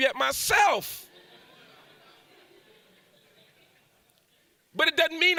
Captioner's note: audience laughs